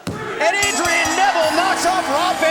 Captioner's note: bell dinging